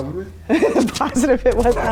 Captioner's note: laughing